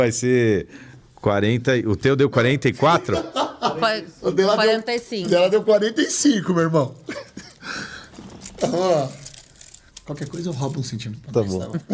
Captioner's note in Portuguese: risadas